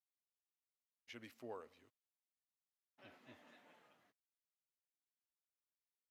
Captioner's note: audience laughing